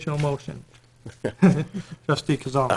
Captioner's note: laughing